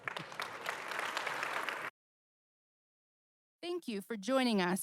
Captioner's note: audience applauding